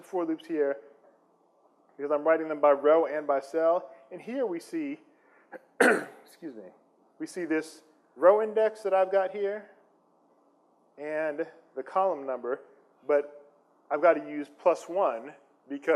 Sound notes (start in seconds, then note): 5.5 clears throat